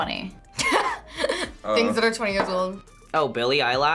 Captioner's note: laughs